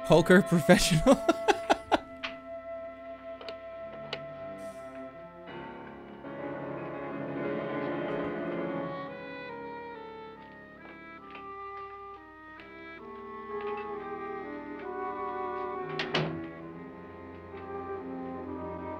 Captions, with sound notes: "Poker professional." [laughs]